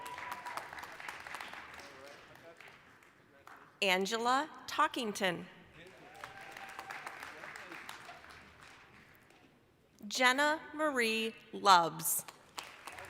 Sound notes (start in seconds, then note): 0.0 applause, cheering; 5.8 applause, cheering